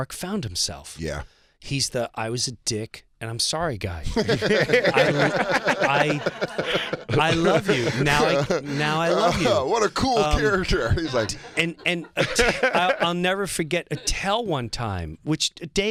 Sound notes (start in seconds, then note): 4.1 laughter